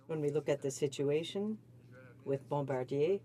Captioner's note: speaking in french